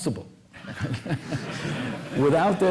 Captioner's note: laughter